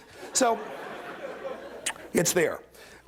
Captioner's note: laughter